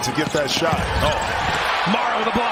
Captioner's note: crowd noise; cheers and applause